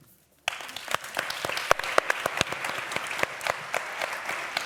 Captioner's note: applause